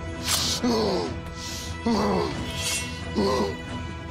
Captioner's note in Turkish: Kılıç sesi